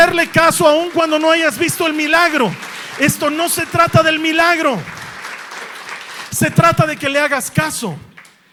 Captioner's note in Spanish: aplausos